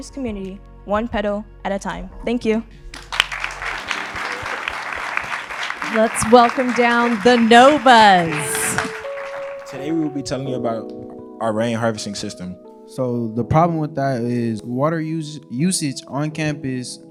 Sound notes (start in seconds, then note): 2.9 audience applauding